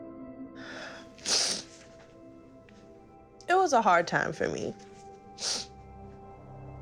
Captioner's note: sniffling